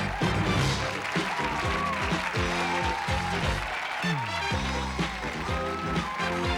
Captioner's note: applause